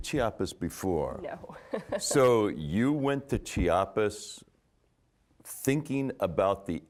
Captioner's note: chuckling